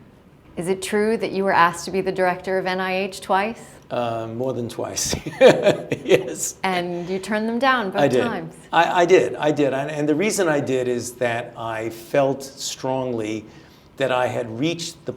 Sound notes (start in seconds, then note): 5.1 laughter